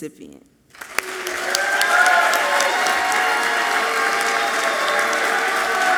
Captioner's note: audience clapping and cheering loudly